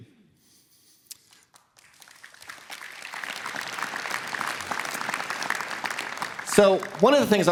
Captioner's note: applause